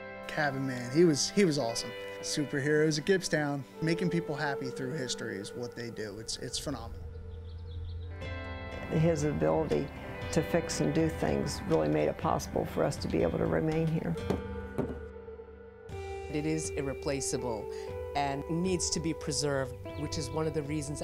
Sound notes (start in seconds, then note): 14.8 adze head thuds on floor